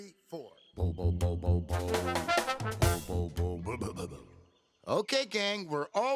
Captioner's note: low humming